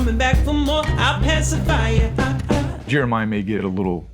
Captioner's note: ha ha